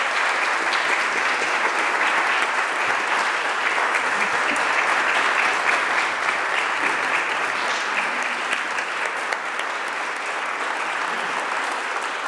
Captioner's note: applause